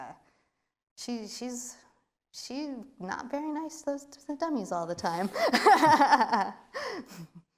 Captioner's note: laughs